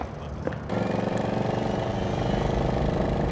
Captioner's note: engine revving